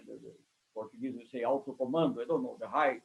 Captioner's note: speaks foreign language